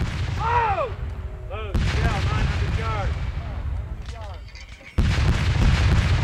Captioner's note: shouting and cannon fire